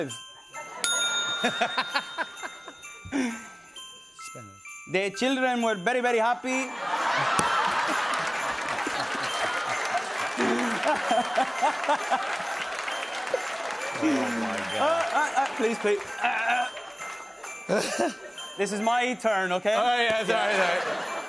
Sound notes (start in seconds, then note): 0.0 bell dings; 1.3 laughter; 5.0 Spanish accent; 6.7 laughter and applause; 15.8 clears throat; 17.5 laughs